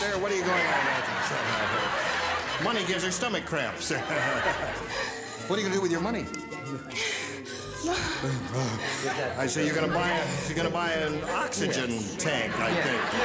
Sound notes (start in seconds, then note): 0.2 laughter; 7.9 panting